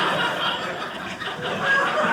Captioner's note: audience laughing